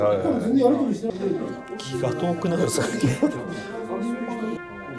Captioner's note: laughs